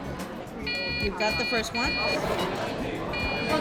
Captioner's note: machine beeps